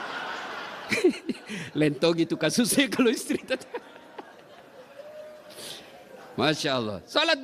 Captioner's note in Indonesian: tertawa